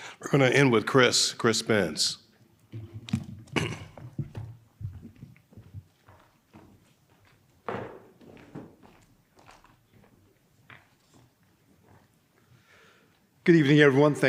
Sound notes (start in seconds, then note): 2.6 footsteps approaching